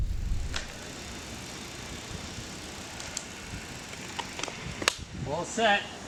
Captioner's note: bicycle chain rattling